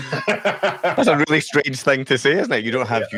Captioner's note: speakers laughing